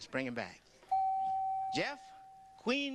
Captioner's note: beep